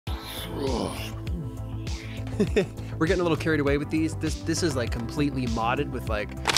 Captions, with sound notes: (upbeat instrumental) (low groan) (chuckles) - We're getting a little carried away with these. This is like, completely modded with like,